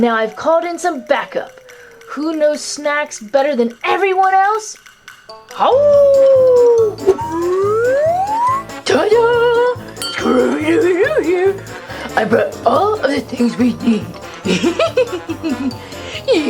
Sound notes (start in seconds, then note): 5.7 dog howling; 14.4 giggles